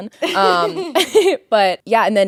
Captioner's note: both laughing